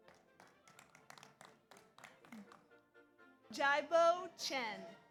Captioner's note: audience applauds